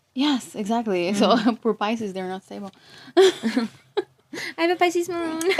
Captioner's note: laughs